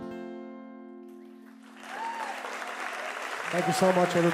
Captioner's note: audience cheers